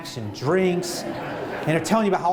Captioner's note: laughter